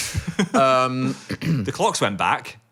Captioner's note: laughs